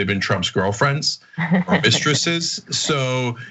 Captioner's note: laugh